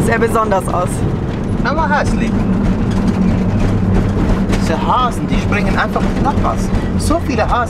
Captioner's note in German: auf Schweizerdeutsch